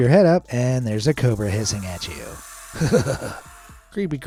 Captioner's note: shudders